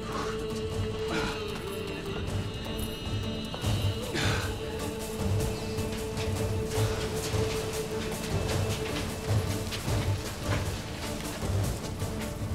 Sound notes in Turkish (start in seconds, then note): 0.0 Nefes sesi